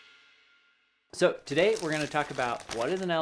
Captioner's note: paper rubbing